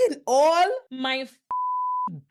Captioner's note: beep